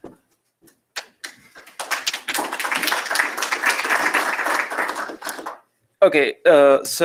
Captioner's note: applause